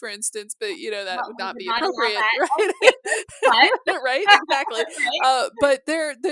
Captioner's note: mutual laughter